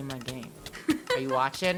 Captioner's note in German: weibliche spielerin 2 lacht